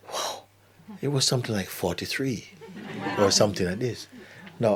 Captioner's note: laughter